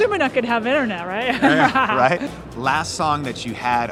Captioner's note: laughing